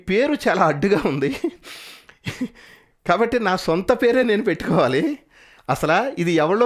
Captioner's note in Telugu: నవ్వు